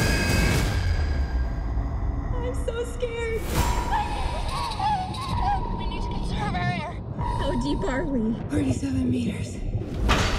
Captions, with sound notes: [screams] I'm so scared. [hyperventilating] -We need to conserve our air. -How deep are we? -47 meters.